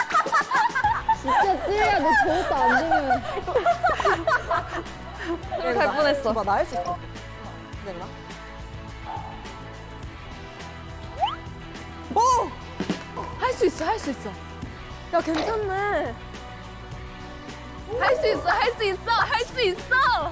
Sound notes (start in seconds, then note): 3.5 can't stop laughing